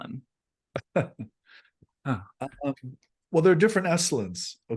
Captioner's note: laughs